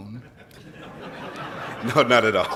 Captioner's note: laughs